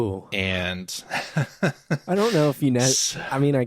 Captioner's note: laughs